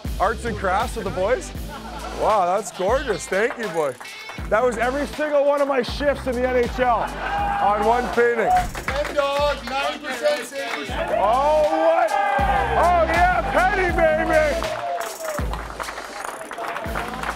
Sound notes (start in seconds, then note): 10.9 players cheering; 14.8 players clapping